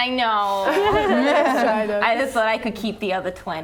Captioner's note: laughing